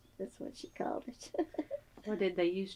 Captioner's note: laughs